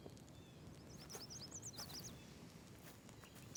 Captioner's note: birds chirping